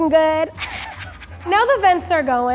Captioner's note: laughs